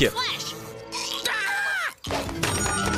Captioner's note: shrieks